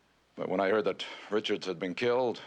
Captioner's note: none